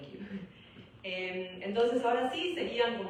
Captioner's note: laughs